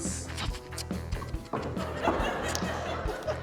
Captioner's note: chuckles; snuffles; laughter